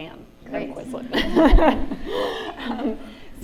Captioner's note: laughter